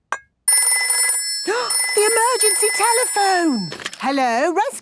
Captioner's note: phone ringing, gasp